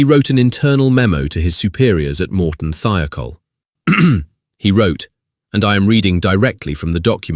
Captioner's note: clears throat